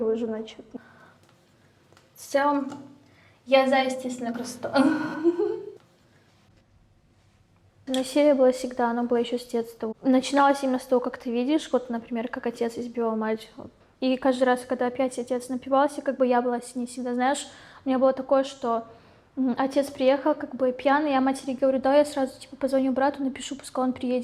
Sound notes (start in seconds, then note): 7.9 giggles